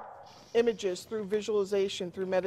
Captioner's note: dog barking